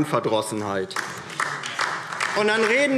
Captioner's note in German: Beifall DIE LINKE